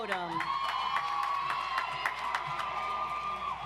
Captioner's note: audience applauds